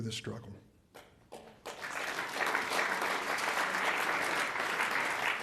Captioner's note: audience applauds